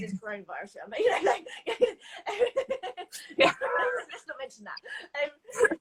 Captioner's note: both laughing